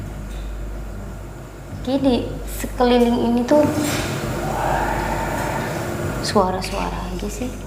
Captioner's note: loud growling sound